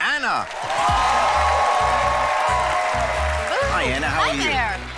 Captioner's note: audience clapping